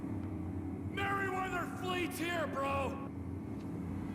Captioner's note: Trevor’s voice echoes